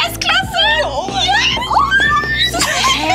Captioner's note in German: Sie kreischen aufgeregt